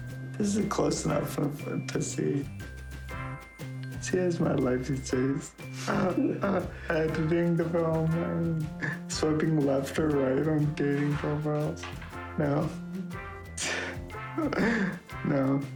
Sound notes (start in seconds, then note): 5.8 chuckling; 14.3 chuckling